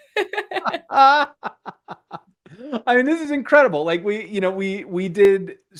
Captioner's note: laughter